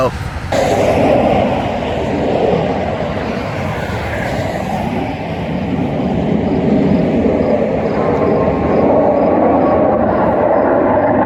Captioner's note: jets flying